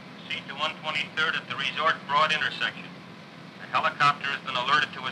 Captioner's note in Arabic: تعليق صوتي